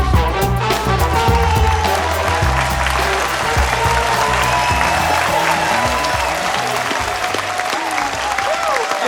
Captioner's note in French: aplaudissement